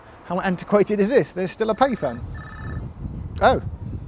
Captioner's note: phone rings